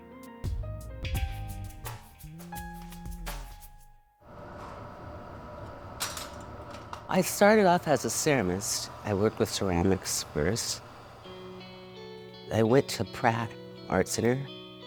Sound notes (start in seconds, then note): 0.0 gentle music; 4.3 flame thrower humming